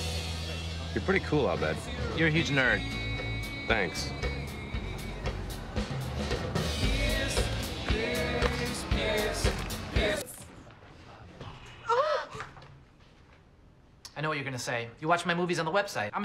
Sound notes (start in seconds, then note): 11.7 ANNIE and SHIRLEY gasp